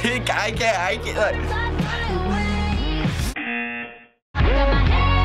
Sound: buzzer

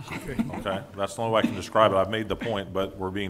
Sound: laughing

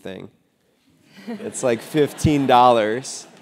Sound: laugh

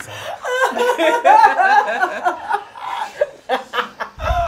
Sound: all laughing

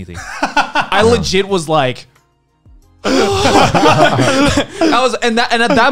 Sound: laughs; men laughing; laughs

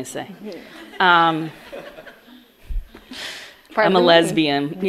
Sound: audience laughs

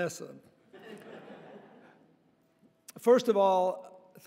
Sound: audience laughing

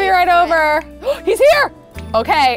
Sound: gasps

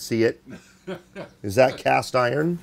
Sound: laughing

